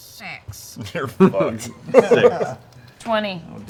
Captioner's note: laughs